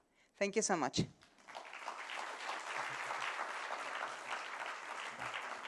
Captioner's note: applause